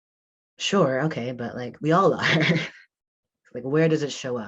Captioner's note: chuckles